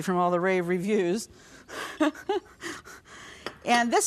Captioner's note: laughs